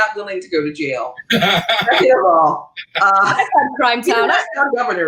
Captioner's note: laughing